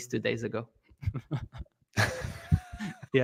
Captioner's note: laughter